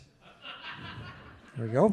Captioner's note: audience laughing